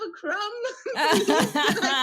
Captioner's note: laugh